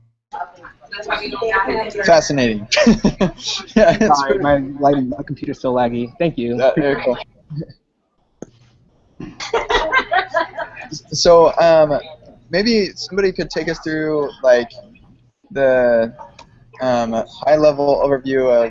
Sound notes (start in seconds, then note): 2.7 laughs; 9.3 laughter